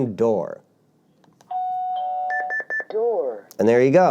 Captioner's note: beeping